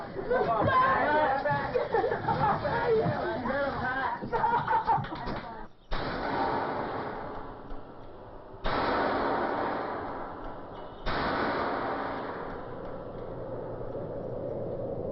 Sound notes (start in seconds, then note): 0.1 whooping and laughing; 5.9 ominous spraying; 14.3 scary noises and distorted voices